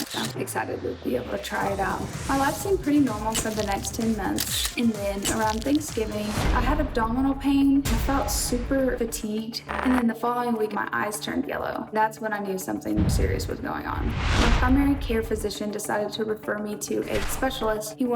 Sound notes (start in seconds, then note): 13.0 air whooshing; 14.3 nervous music